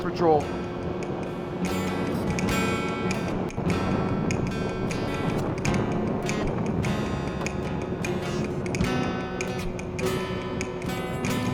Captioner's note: ATV sounds on road